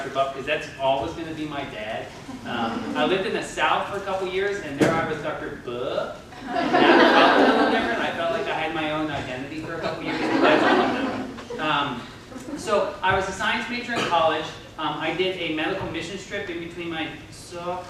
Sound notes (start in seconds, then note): 6.4 laughter; 9.7 laughter